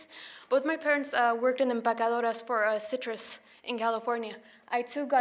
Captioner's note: foreign language